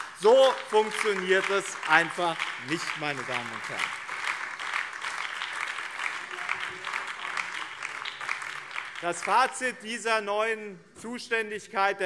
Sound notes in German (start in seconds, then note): 3.1 Beifall BÜNDNIS 90/DIE GRÜNEN und Freie Demokraten